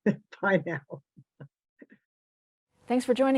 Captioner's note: laughs